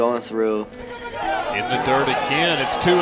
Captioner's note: cheering